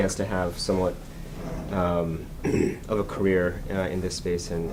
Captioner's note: clears his throat